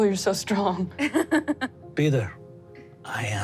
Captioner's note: laughs